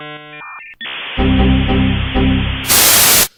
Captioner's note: dial up modem sounds; windows error sounds